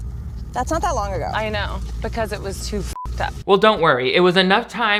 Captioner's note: beep